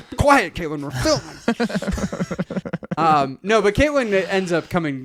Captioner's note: laughing